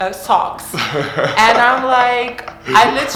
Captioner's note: laughter